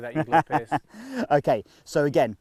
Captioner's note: laughs